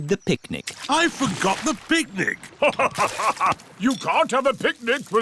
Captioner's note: laughs